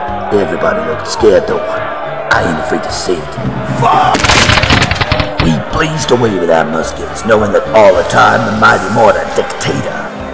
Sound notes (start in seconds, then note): 4.1 multiple gunshots